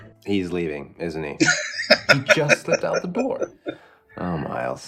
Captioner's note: laughing